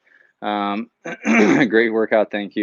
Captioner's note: clears throat